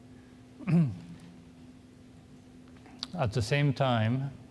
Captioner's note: coughs